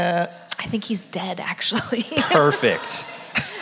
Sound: audience laugh; laughs

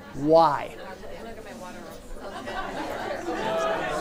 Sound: chattering

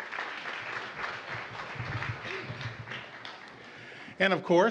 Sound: applause

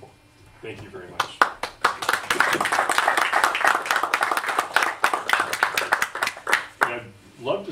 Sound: audience Applauds

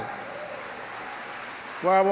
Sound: applause

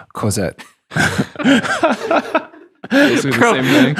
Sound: laughing

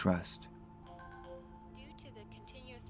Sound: computer beeps

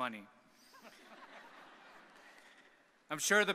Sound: audience laughing

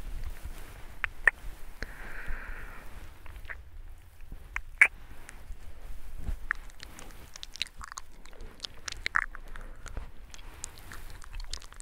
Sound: mouth sounds

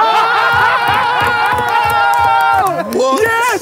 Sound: cheering

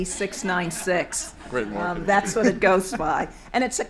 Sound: audience laughter

